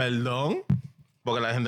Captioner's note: speaking In Foreign Language